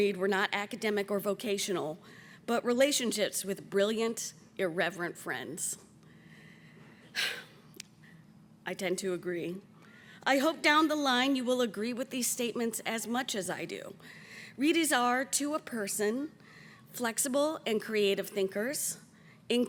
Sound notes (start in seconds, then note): 7.4 spokesperson sighs